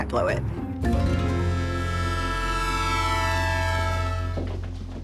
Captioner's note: train horn blaring